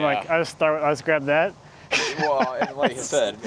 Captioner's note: laughs